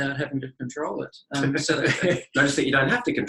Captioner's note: both laugh